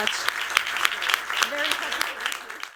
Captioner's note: applause